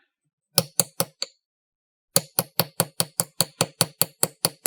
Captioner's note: light hammering